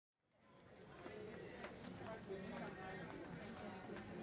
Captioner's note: audience chatters